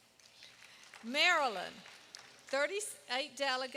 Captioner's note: applause